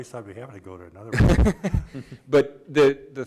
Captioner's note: laughs